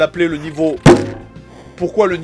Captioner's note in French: Bump